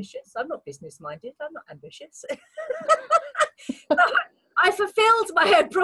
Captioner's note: laughs